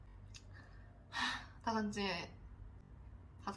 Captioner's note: a sigh of many things in it